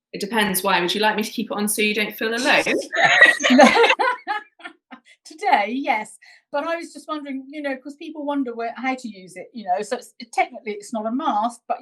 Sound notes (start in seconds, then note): 2.4 women laughing